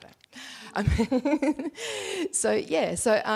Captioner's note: laughs